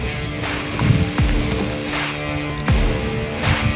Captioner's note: bowstring draws; heavy breathing